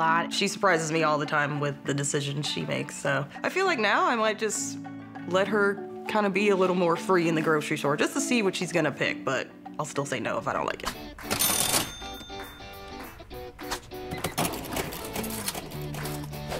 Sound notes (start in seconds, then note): 11.1 cash register ringing; 11.2 upbeat music; 13.4 cash register whirring and beeping